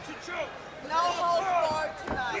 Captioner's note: crowd chatter